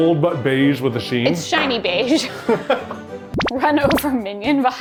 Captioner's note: laughing